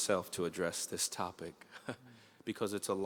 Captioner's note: chuckles